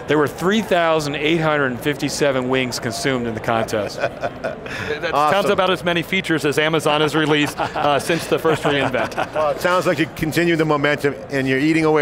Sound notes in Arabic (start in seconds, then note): 3.9 ضحك